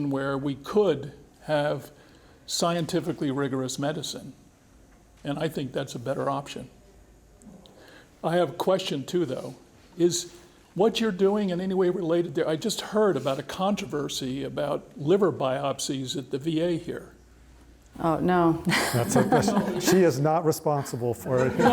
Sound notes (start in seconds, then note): 18.6 laughs; 21.0 all laugh